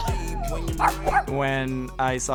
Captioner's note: dog barks